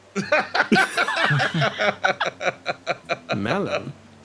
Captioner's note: laugh; laughs